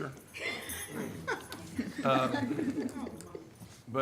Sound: laughs

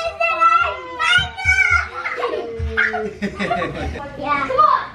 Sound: screams

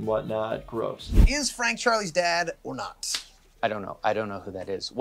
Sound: claps hands

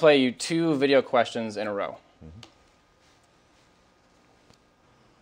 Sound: pause

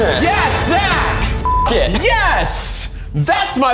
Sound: beep

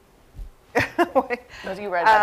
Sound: laughs

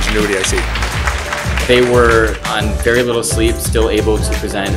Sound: applause

